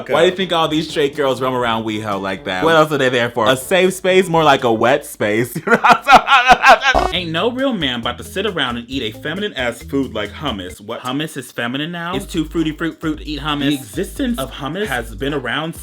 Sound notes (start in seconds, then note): 5.6 laughs